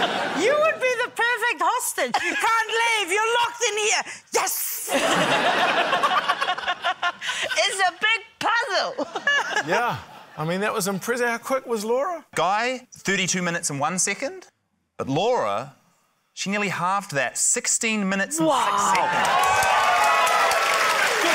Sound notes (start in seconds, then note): 0.0 laughter; 4.9 laughter; 18.6 cheering, applause